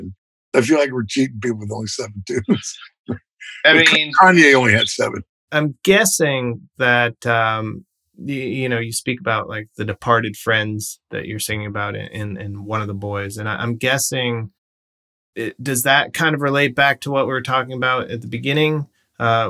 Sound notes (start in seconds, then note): 3.5 laughter